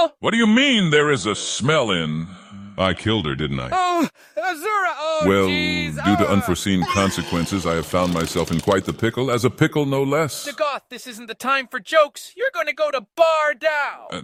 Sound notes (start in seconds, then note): 5.2 Nerevar panics in the background